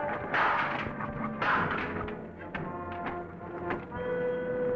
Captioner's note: ladder clanking; door creaking